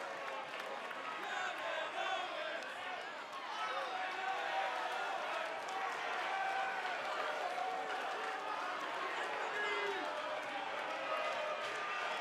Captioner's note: crowd booing